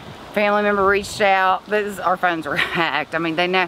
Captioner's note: laughs